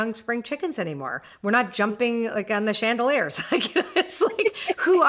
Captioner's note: laughs